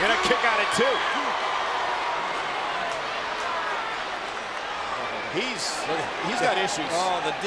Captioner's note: applause